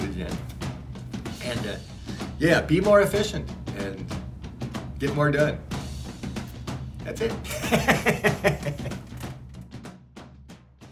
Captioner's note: laughs